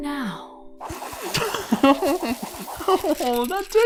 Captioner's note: The Floor giggles